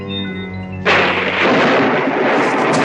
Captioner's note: thunder rumbling